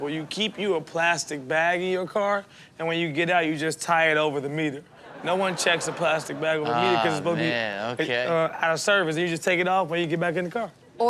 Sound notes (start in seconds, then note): 5.0 audience laughs